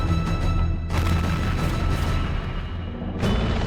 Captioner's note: explosion